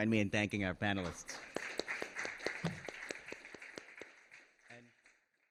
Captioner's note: applause